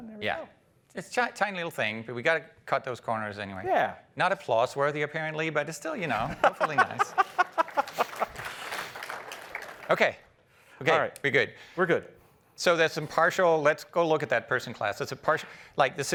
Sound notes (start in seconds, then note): 6.7 applause